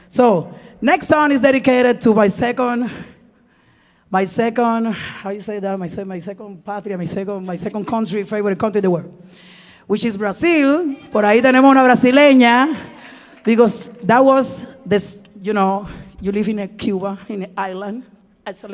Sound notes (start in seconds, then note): 11.2 speaking in Spanish